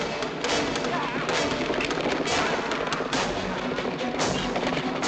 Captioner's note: hooves clattering